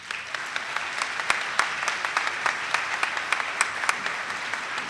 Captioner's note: attendees clapping